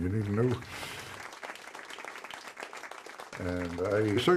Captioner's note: crowd applauds